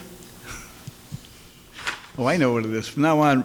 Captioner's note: laughs